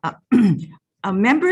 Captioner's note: clearing throat